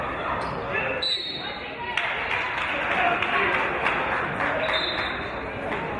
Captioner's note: referee's whistle; referee's whistle